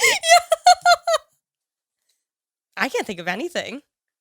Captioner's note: laughs